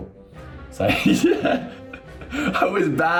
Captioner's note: laughs